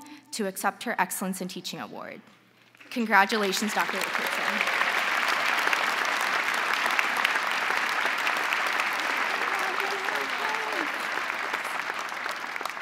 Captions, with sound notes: to accept her Excellence in Teaching award. Congratulations Dr. Richardson. (crowd applauding)